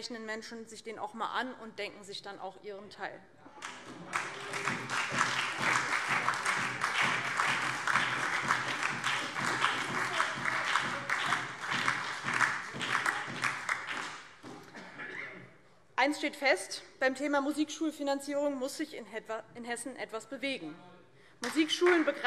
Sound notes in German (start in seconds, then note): 3.6 Beifall DIE LINKE, SPD und Freie Demokraten; 21.4 Beifall DIE LINKE, SPD und Freie Demokraten